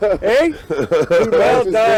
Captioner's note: laughter